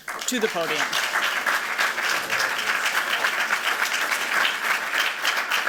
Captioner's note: applause